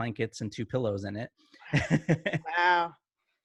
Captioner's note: laughing